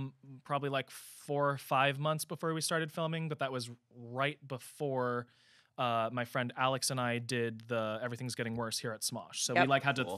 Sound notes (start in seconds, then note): none